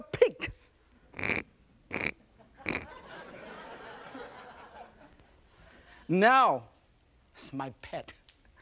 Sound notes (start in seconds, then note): 1.1 pinky pig snorting; 2.4 audience laughing